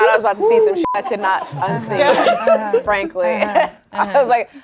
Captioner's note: beep